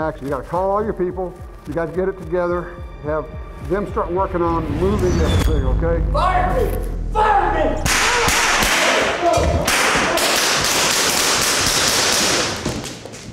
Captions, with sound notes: You gotta call all your people. You gotta get it together, have them start working on moving everything, okay? (ominous overtones) - [Voiceover] Fired me. You fired me! (guns firing)